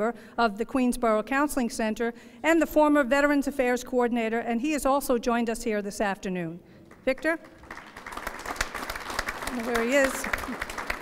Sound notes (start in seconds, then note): 6.9 applause